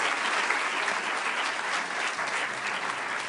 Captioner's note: applause